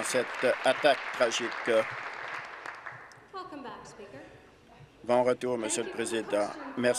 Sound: applause

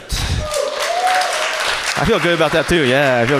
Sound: audience cheers

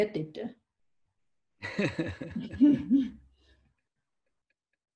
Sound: both laughing

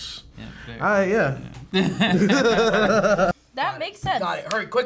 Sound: both laugh

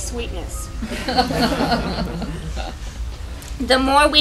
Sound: laugher

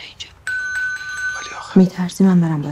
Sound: doorbell ringing

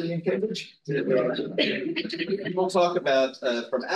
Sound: audio distorting

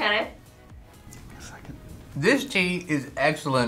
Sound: whispers

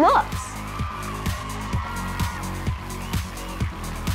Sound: audience cheering

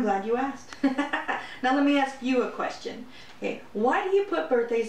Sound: laughter

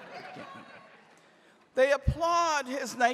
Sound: woman in audience shouting

